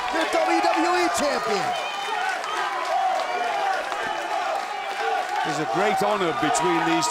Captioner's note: applause